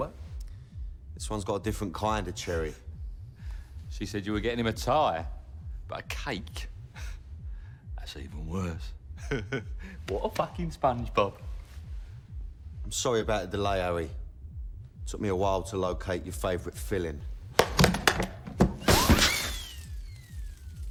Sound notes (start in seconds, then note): 9.1 chuckles